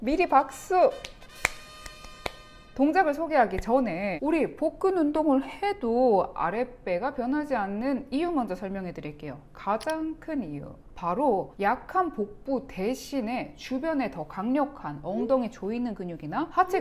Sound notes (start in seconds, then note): 1.8 clap clap clap!